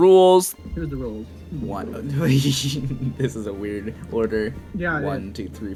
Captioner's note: laughs